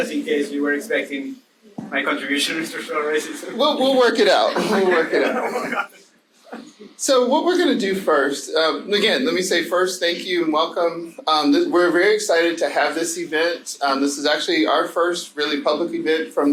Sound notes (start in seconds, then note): 4.4 laughs